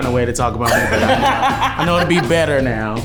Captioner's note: everyone laughs